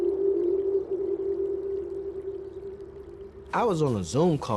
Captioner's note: water running